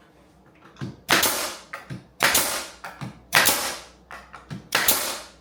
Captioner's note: electric hammer whooshes